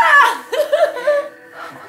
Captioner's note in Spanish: risas